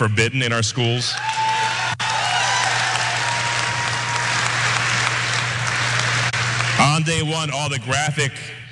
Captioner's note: applause